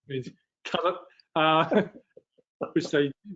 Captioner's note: laughs